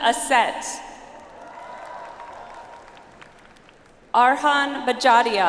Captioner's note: audience applauds